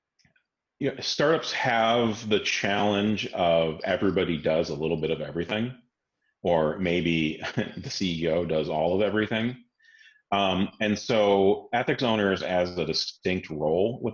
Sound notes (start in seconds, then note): 7.3 laughs